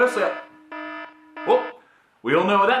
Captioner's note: alarm